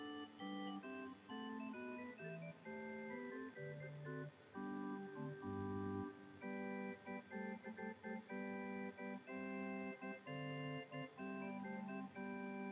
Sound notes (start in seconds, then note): none